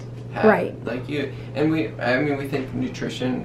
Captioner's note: stutters a bit